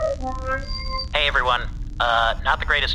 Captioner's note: holo start noise